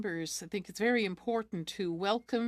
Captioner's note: speaking French